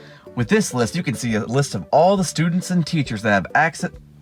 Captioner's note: none